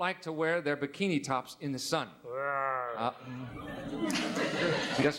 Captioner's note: groaning